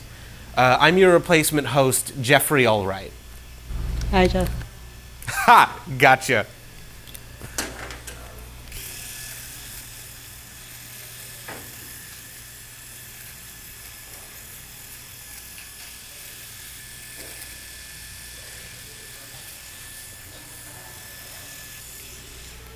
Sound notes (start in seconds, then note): 9.2 buzzing and silence